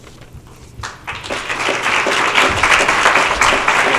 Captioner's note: applause